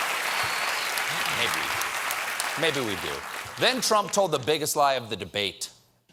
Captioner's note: cheers and applause